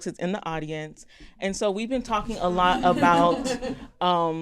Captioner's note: audience laughter